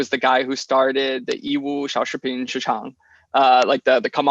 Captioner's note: speaks in foreign language